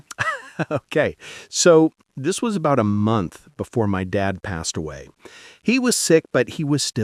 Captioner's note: laughs